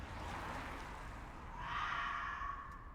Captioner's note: distant yowling